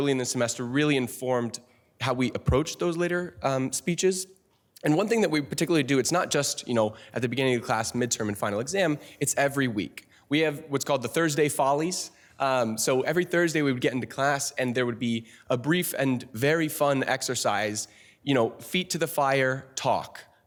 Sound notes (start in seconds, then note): none